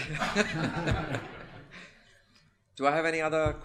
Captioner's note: laughter